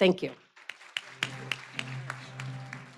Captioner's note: applause